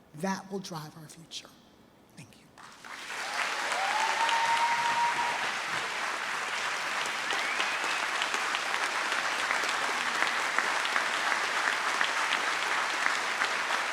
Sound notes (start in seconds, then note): 3.6 trustees and audience cheer and applaud